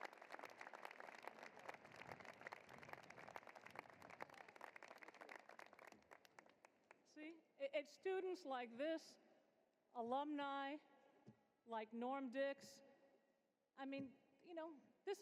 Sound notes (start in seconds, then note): 0.0 applause